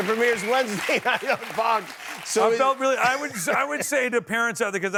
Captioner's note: cheers and applause